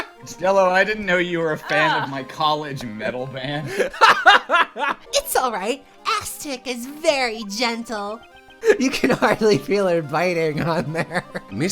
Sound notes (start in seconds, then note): 3.6 laughter